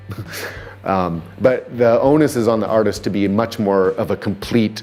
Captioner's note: chuckles